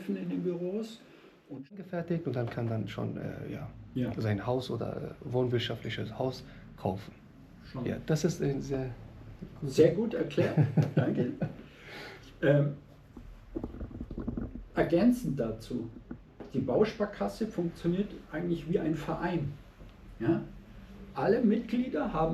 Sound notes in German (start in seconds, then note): 10.3 gelächter; 13.8 schnauben